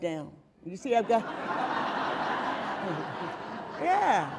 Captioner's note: audience laughing